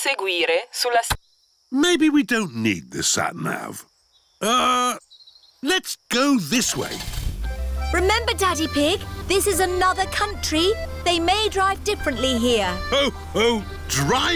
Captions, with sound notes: (SAT NAV TALKS IN ITALIAN) Maybe we don't need the sat nav. Uh, let's go this way. (STARTS ENGINE) Remember, Daddy Pig, this is another country. -They may drive differently here. -Oh-ho!